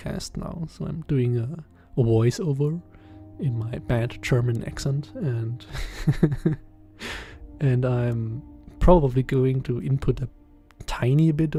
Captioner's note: laughs